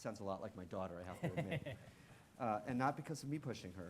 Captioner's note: laughing